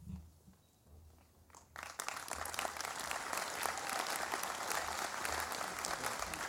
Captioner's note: applause